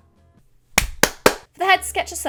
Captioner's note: claps sarcastically